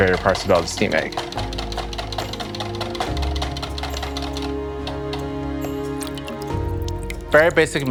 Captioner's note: whisk scraping; gentle music